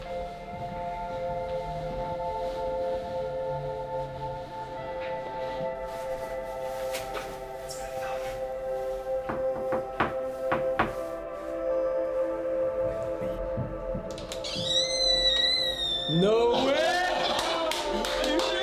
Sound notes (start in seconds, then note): 9.2 soft knocking on door; 14.1 door creaks open; 16.9 friend clapping